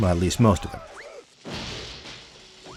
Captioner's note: explosions